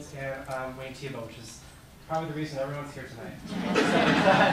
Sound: laughter

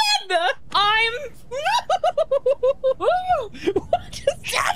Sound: freaking Out Noises

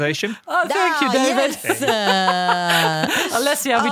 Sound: laughs

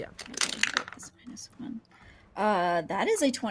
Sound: dice clatter

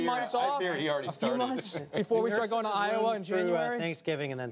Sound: laughter

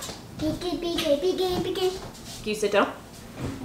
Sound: vocalizing

